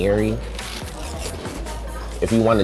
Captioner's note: crunching